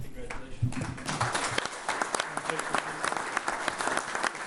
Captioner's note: all applauding